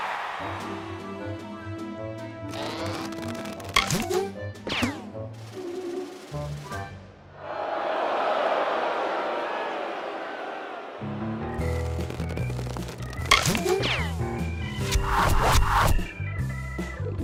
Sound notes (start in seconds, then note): 7.3 crowd boos; 13.3 arrows hitting